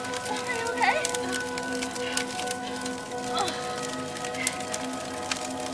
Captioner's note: grunts; fire crackling; solemn music